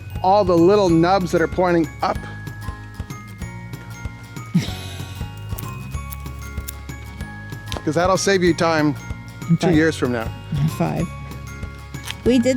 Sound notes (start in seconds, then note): 4.5 camera operator chuckles; 5.5 cheerful music